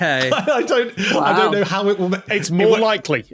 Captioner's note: laughs